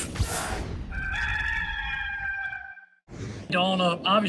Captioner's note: rooster crowing